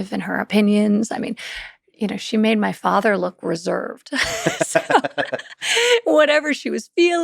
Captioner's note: laughs